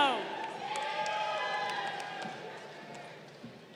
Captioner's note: crowd cheering